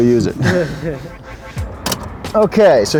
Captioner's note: laughing